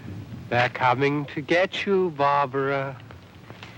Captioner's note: scary voice